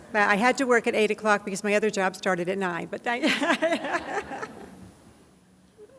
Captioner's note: laughs